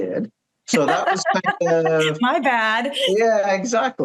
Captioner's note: laughs